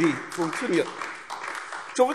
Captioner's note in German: Beifall AfD